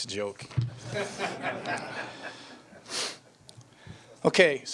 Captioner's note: audience laughing